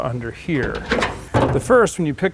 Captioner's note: car hood unfolds